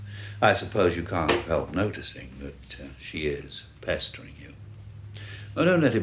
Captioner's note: none